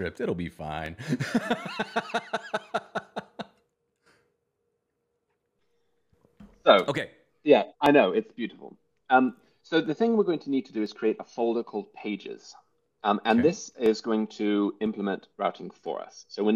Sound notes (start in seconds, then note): 1.0 laughter